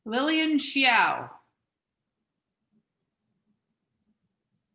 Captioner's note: none